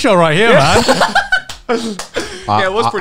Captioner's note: laughs